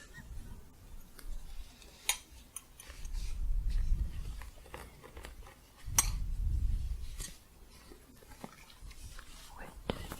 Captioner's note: gentle jingling and soft scratching